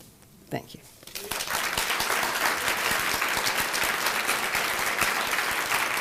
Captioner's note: applause